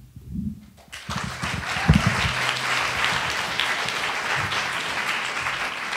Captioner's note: attendees applauding